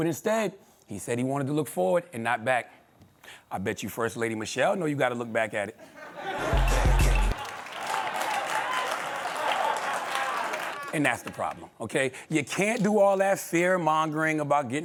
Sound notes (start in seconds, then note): 5.8 laughter; 9.4 laughter/applause